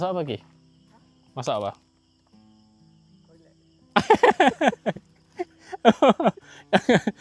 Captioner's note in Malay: ketawa